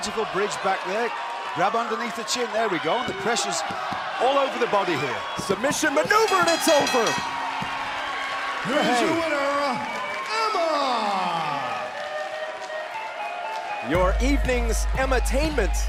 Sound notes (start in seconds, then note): 8.4 bell ringing